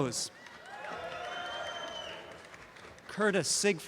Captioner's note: audience cheering